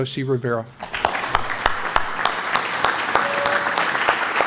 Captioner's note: applause